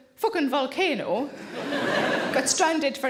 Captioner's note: audience chuckles